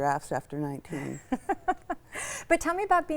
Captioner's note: laughs